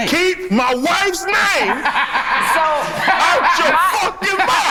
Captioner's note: laughs